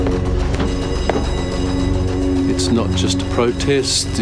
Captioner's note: suspenseful music; bell rings